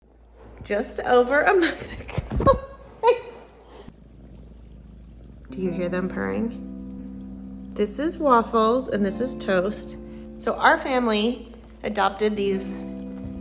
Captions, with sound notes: Just over a month (laughing). Do you hear them purring? This is Waffles, and this is Toast. So our family adopted these